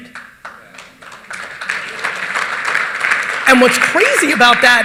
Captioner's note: audience applauding